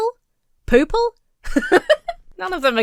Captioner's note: Emma laughs